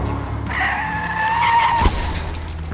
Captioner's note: tires screeching; crashing; glass shattering